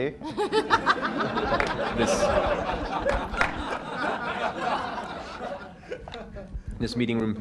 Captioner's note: laughter